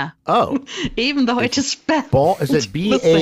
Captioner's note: laughs